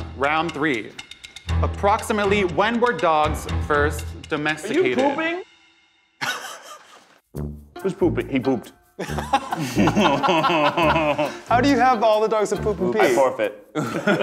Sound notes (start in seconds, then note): 6.2 laughing; 9.0 everyone laughing